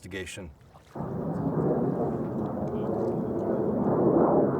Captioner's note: wind whooshes